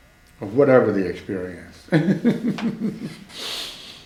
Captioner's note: laughs